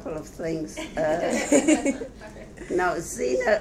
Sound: audience laughs

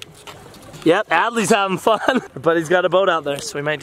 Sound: laughs

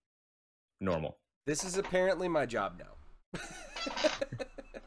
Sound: chuckling

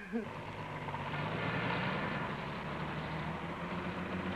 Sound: engine revving

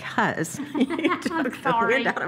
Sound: both laugh

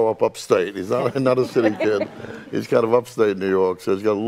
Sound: all laughing

